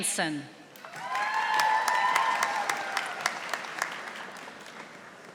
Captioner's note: audience applauding